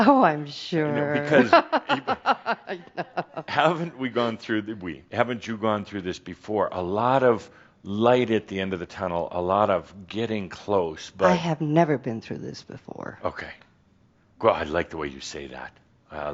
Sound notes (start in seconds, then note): 0.8 she chuckles